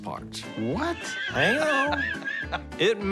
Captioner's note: laughing